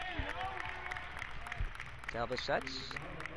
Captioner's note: crowd cheers